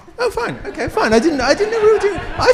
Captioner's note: attendees laugh